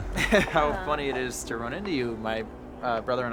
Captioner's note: laughs